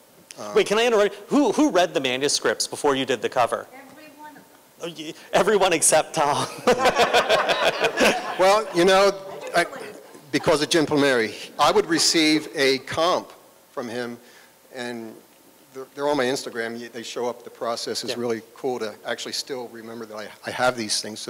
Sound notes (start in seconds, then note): 6.4 laughter